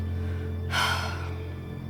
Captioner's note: sighs